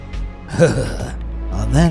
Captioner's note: shiver